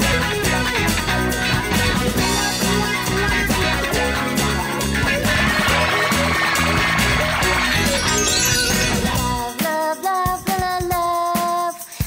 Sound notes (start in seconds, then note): 5.6 magic beam sparkles